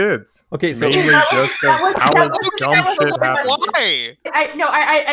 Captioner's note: laughs